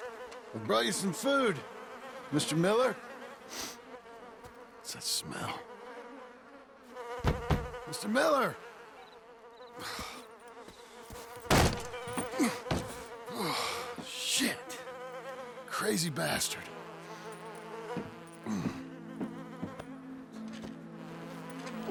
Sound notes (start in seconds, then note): 3.5 sniffs; 7.2 knocks